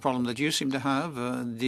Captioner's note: speaking French